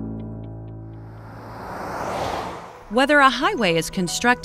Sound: car passing

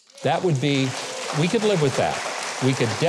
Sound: audience applauding

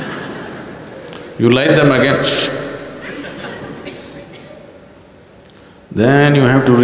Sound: laughter; laughter

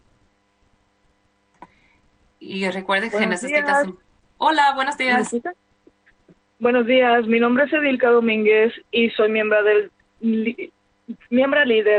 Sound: speaking spanish

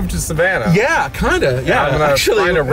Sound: laughs

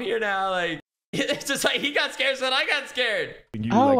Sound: laughing

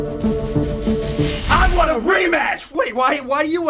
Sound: slow dramatic music; both yell at same time

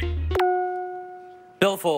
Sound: ding

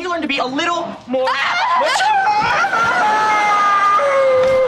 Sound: screaming

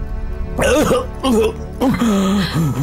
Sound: coughs

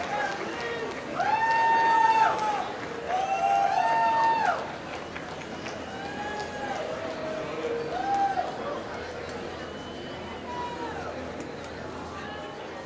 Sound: applause

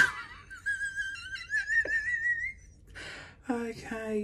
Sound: wheezing

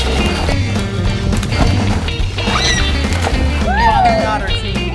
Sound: splashing and screaming

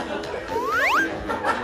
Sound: sound effect:hop

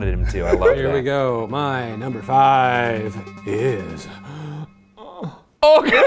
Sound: moans; laughs

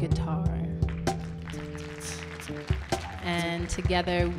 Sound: audience applauding

